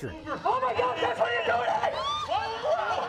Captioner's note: yelling